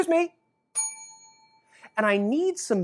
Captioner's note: bell rings